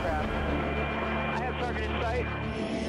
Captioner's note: man On Radio